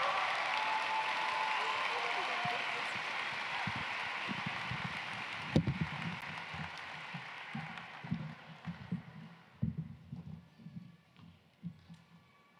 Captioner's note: cheering and applause